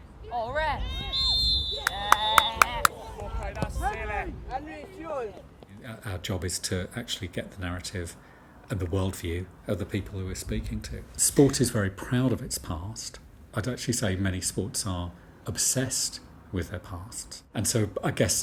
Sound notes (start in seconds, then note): 1.0 referee blows whistle for penalty; 1.7 cheers